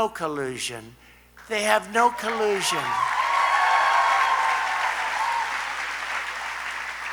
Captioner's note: applause